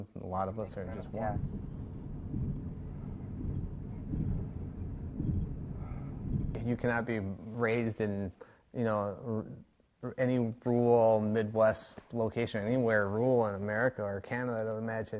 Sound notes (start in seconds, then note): 3.4 road noise